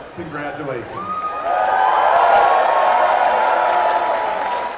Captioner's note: applause, cheers